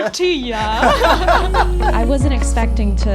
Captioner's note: laughing